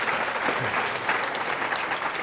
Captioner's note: applause